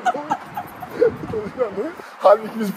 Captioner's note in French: rires